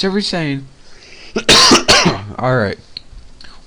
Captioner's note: coughing sound